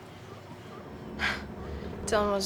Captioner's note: scoffs